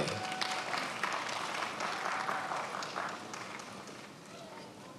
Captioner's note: attendees applauding